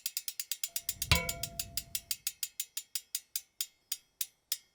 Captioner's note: bell ringing